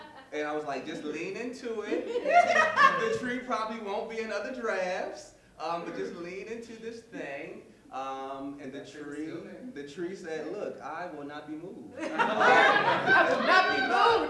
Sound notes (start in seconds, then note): 11.9 laughter